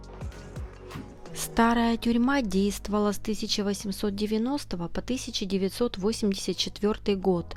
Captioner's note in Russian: закадровый голос